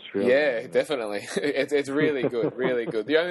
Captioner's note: laughing